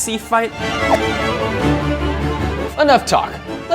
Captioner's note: air whooshing